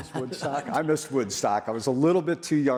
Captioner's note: laughs